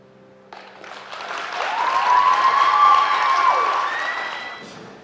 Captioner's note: applause